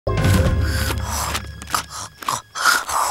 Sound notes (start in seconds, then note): 0.3 wheezing